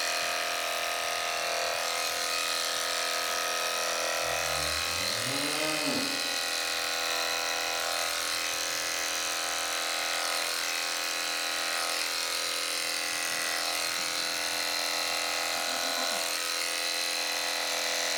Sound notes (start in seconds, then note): 0.1 shaving noises; 4.3 cow moos; 6.2 shaving noises; 15.5 goat bleats; 16.9 shaving noises